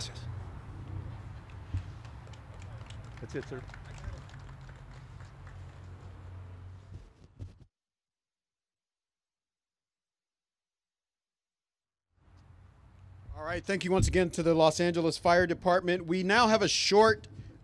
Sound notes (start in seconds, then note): 4.2 applause